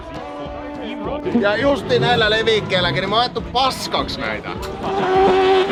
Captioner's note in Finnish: moottorin pärinää